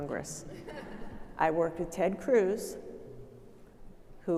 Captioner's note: audience laughing